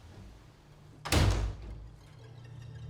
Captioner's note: sound of door closing